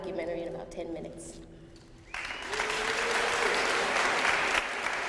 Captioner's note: applause